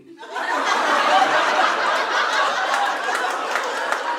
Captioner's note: audience laughing